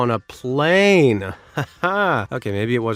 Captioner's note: chuckles